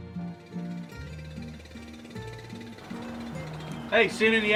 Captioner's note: motor running